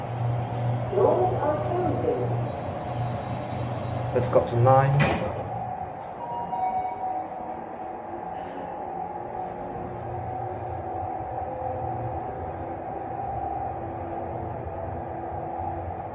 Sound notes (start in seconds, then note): 5.9 chime from Goods Lift